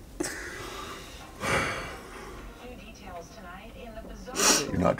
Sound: sighs; sniffles

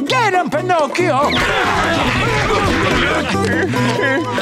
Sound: grunting

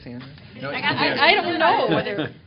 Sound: laughter

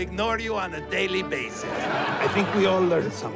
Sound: laughter

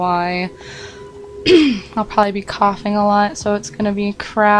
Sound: clears throat

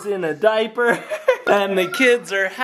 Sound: laughing

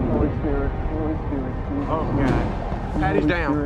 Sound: murmurs

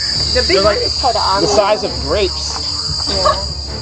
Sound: people chattering; people laughing

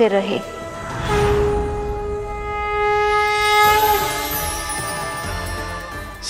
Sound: conch blows

